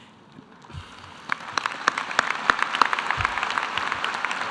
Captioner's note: audience applause